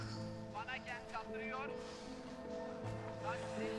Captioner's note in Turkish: Televizyon spiker sesi